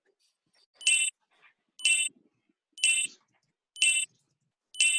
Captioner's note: countdown beep